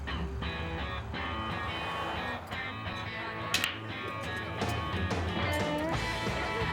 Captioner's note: upbeat country music; chattering